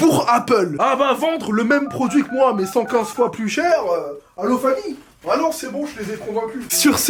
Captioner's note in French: bruit de touche de téléphone